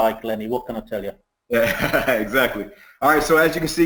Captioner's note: laughs